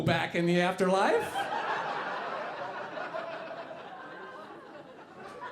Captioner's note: audience laughing